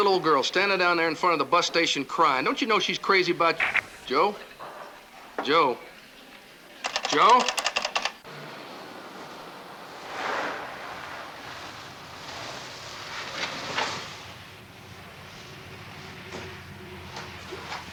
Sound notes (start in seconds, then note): 3.6 line clicks; 6.8 lever clacking